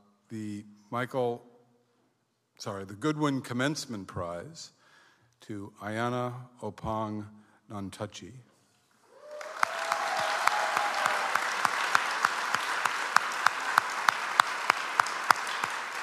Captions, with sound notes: The Michael... Sorry, the Goodwin Commencement Prize to Ayana Opong-Nyanteki. (audience applauds)